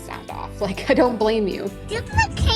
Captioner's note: laughs